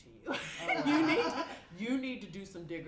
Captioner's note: laughter